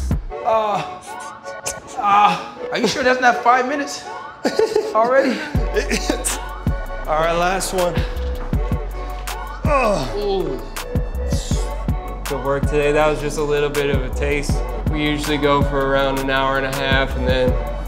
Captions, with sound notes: Are you sure that's not five minutes, already? - All right, last one. [Groans] Good work today, that was just a little bit of a taste. We usually go for around an hour and a half and